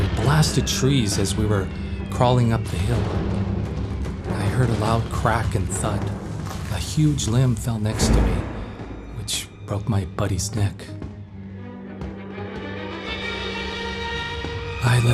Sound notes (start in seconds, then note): 5.8 dramatic orchestral music plays; 7.9 whistling, explosions